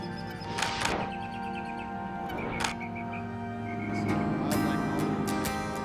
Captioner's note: camera shutter clicking